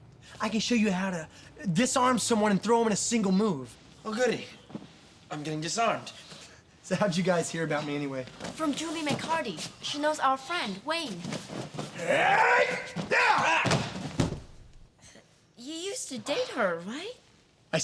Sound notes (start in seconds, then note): 11.8 grunting